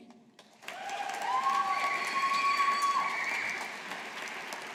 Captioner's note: audience applauding